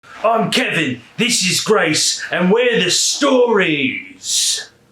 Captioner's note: british rock accent